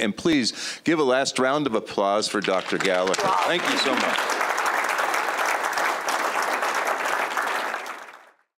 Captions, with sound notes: And please give a last round of applause for Dr. Gallaher. Thank you so much. [APPLAUSE]